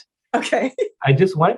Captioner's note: laughs